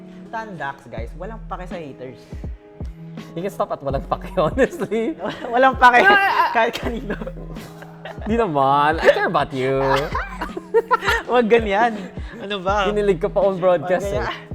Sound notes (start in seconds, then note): 5.1 laughs; 10.0 laughs; 10.0 squeals